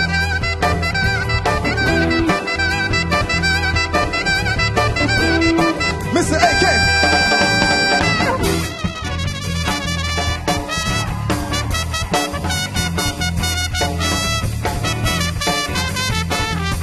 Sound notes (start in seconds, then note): 0.0 saxophone playing; 0.0 upbeat funk music; 8.9 audience cheering; 8.9 trumpet playing